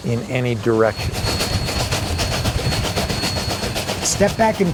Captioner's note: train chugging